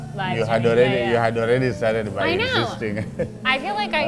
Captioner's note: laughs